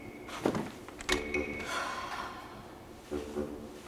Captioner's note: sighs